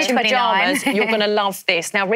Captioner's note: laughs